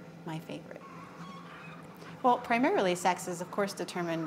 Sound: sounds of chickens

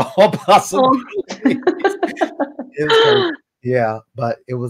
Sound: everyone laughs

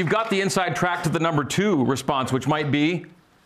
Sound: applause

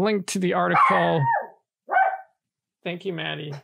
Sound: dog barking

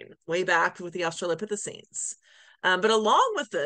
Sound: none

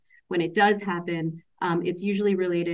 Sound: none

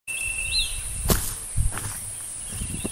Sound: footsteps

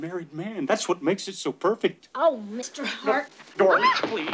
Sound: screams

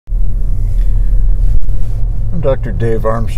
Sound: car engine roaring

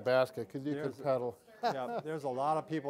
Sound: laughs

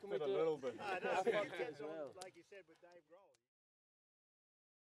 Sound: indistinct chatter

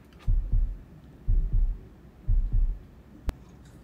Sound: thump thump

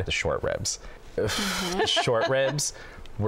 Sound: exhales sharply

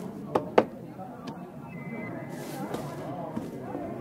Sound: knocking

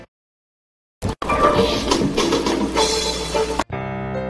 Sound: whooshing and music; dramatic music plays

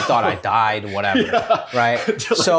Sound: laughs

